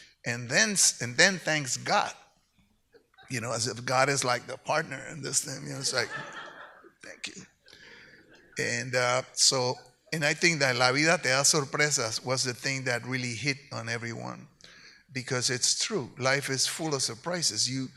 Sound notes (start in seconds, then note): 10.3 speaks in Spanish